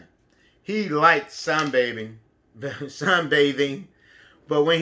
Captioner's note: chuckles